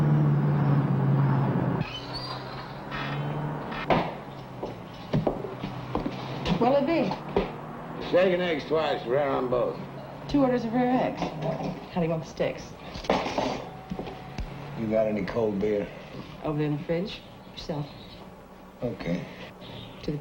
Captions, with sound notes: (door squeaks open and thuds close) - What'll it be? - Bacon eggs twice, rare on both - Two orders of rare eggs. How do you want the steaks? - You got any cold beer? - Over there in the fridge, help yourself. - Okay.